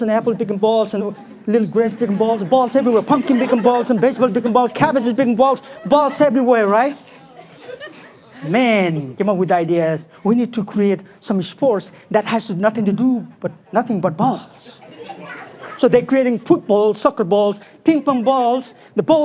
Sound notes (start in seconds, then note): 7.8 people softly laugh